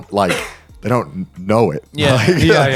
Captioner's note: chuckles